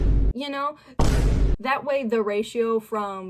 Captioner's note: boom